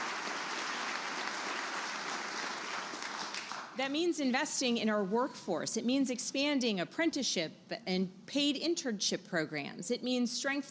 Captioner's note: applause